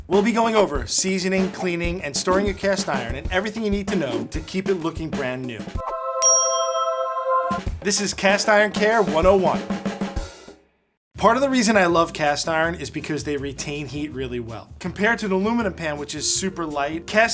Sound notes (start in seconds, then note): 5.9 angelic choral music; 6.2 ding chimes